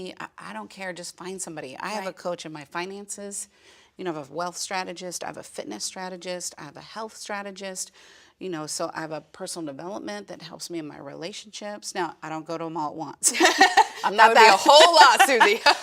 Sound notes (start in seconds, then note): 13.3 laughing; 13.3 laughs